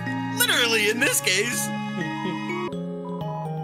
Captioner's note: laughs